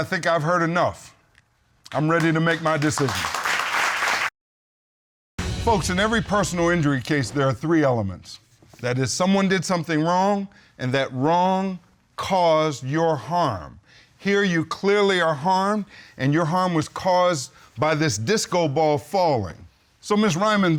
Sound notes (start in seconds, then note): 3.8 applause; 5.4 applause